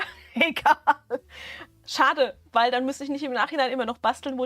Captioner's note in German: Gelächter